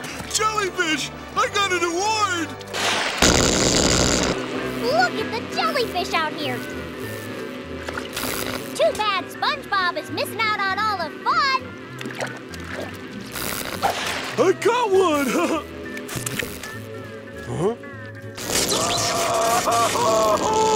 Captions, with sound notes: Jellyfish, I got an award! Look at the jellyfish out here. Too bad SpongeBob is missing out on all the fun! I caught one, ha-ha! Huh? [screaming]